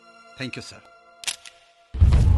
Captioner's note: camera Clicks